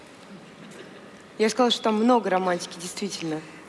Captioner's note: foreign Language